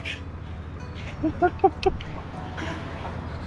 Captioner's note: chuckling